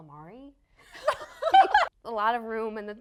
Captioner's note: laughing